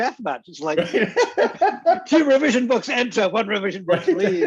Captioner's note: laughs